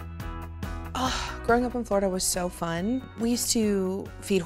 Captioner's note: sighs